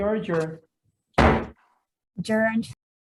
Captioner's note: banging of the gavel